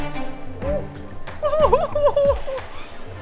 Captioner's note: ditsy giggles